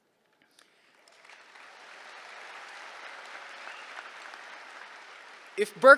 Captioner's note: applause